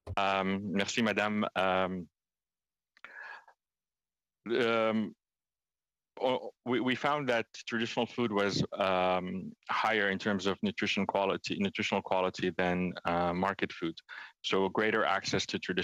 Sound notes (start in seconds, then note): 5.6 speaking French